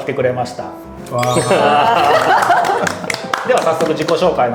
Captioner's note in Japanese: 拍手！